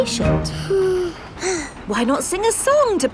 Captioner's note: both sigh